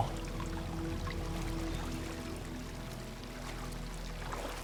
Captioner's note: rushing of water